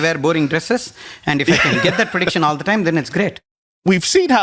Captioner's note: laughs